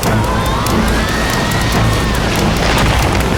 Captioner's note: screaming